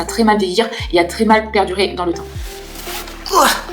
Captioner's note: grunts